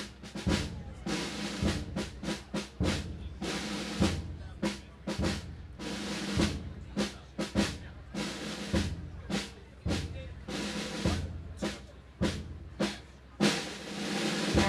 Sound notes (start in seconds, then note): 4.4 audience members chatting indistinctly continues